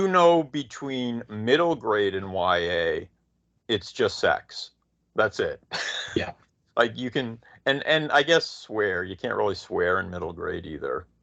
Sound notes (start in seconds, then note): 5.6 laughing